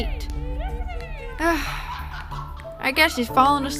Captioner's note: sigh